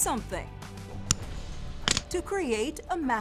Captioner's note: glass snaps and thuds